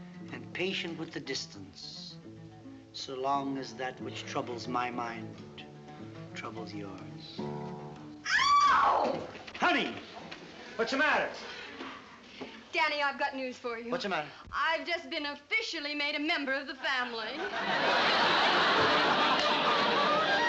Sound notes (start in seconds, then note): 8.2 kathy screams; 18.9 laughs